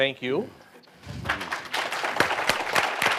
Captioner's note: applause